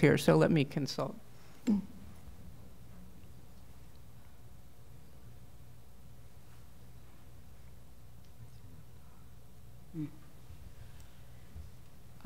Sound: speaking off mic

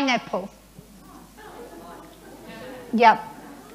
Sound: murmuring

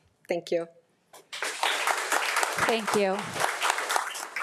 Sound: audience applauding

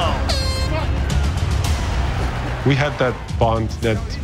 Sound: end of round horn blares

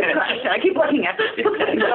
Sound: laughter

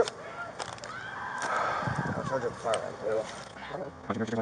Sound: crying and yelling

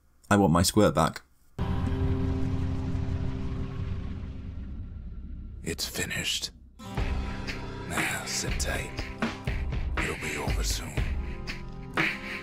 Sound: in-game audio

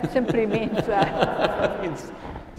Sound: attendees laughing

